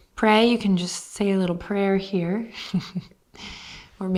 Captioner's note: chuckles